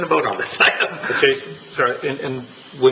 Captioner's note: laughter